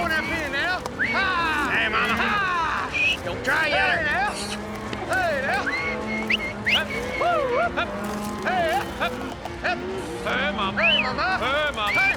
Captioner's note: prompting cattle, whistling